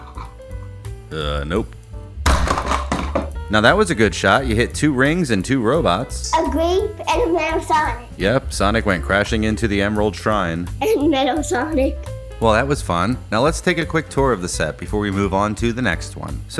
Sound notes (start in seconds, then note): 2.0 bonk!; 10.8 laughs